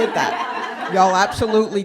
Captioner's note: laughter